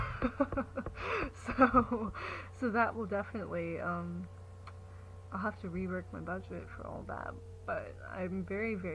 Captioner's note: laughs